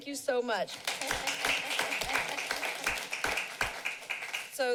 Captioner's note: applauding